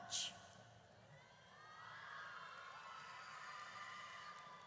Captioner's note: audience cheers